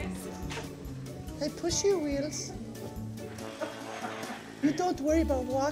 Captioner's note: bad japanese accent